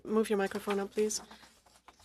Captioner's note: speaking French